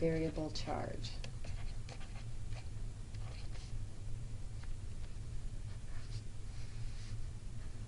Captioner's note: writing